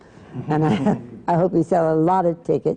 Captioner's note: laughter